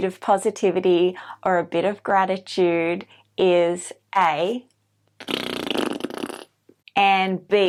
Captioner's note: makes fart sound with mouth